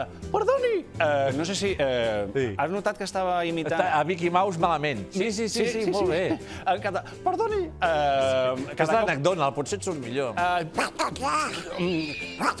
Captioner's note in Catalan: imita el Mickey Mouse